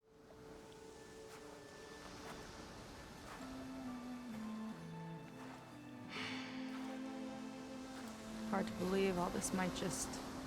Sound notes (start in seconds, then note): 6.1 sigh